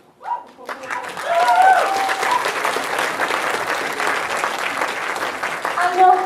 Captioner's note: audience applause